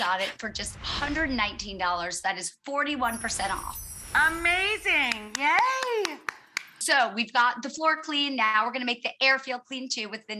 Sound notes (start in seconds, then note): 3.0 twinkles; 5.1 claps